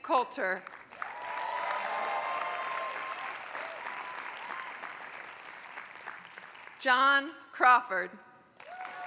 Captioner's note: applause; applause